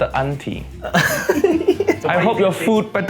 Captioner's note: laughs